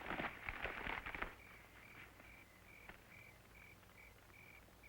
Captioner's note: crickets chirping